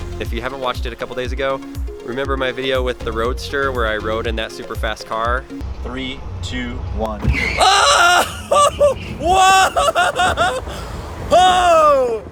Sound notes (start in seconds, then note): 7.2 screams and yells